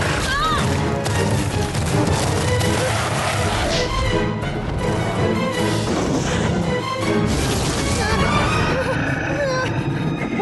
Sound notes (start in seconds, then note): 2.7 screech!; 5.7 snarling; 8.7 whimpering